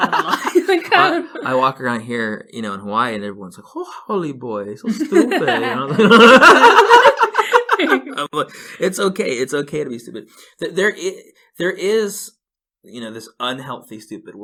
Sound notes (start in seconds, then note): 0.0 laughs; 6.8 laugh